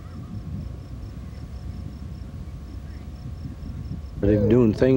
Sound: crickets chirping

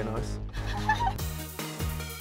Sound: laughter

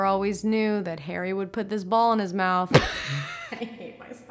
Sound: laughs

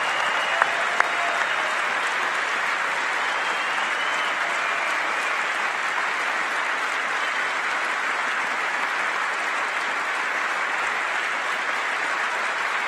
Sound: applause

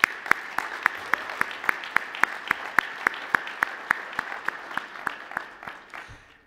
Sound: applause

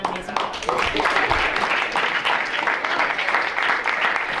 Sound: audience clapping

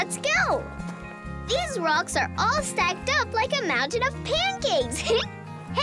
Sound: giggle

